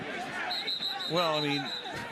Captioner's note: whistle